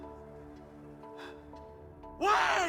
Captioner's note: exhales